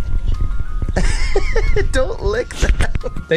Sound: laughs

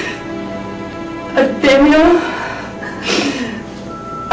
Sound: sniffles

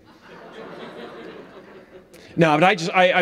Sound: audience laughs

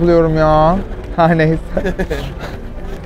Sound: laughs

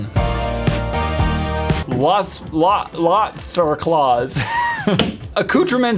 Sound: chuckles

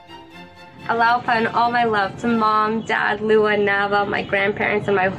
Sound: non-english speech

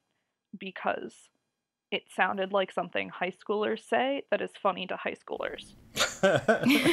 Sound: laugh

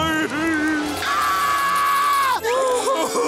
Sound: crying; screaming; crying

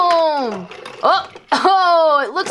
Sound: toys rattle

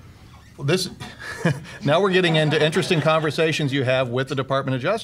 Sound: laugh

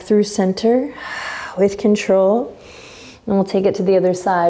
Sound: exhaling strongly

